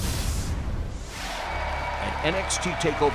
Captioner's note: cheers and applause